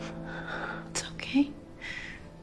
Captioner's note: whispering